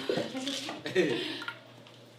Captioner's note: laughing